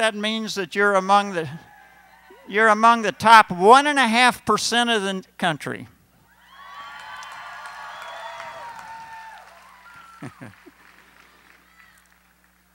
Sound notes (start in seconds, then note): 6.4 cheering